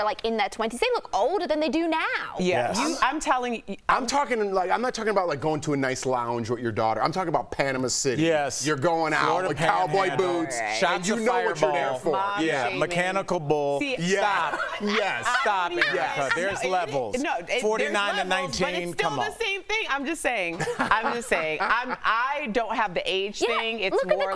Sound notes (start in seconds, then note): 18.7 laughter